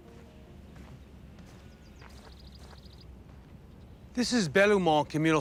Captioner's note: birds chirping